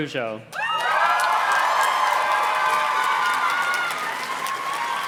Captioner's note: audience cheers and claps